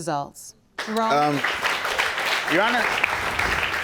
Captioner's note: audience applauding